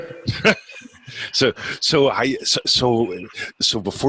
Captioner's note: laughing